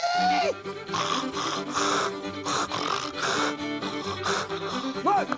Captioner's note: imitates a hog grunting